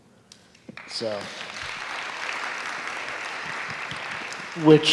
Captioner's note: students applauding